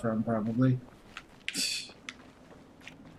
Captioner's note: scoffs